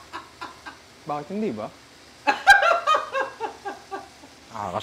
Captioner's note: laughs; laughs